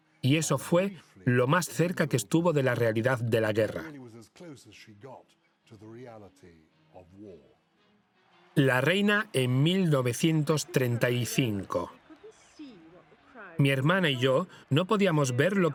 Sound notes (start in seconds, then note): 8.2 crowd cheering